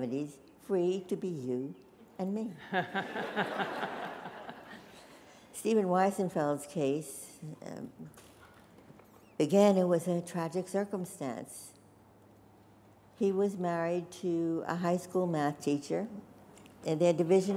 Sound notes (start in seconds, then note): 2.6 laughter